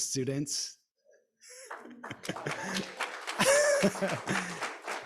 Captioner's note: audience applauding